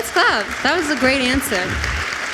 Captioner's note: audience applauding